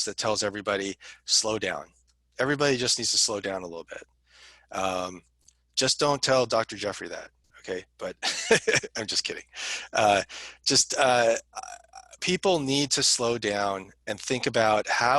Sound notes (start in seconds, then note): 8.2 laughter